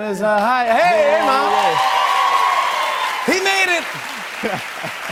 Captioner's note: cheers and applause